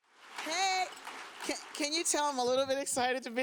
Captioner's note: audience applauds